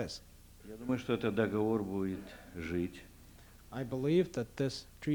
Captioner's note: non-english speech